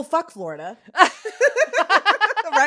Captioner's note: both laugh